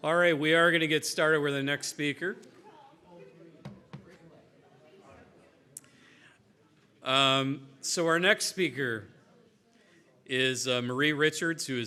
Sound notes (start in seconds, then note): 1.9 chatter in background